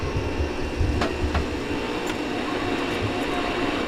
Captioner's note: pumps whirring